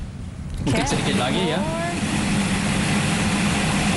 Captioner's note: non-english speech